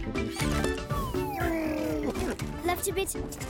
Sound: music upbeats playing; Tobor groaning

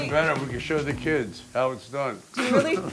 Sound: laughing

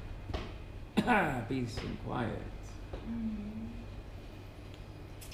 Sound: coughs

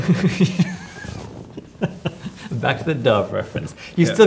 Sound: laughter

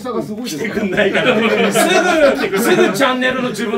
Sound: laugh

